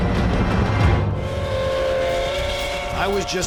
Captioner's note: train whistle